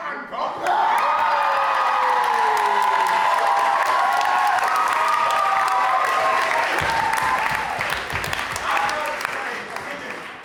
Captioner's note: audience cheers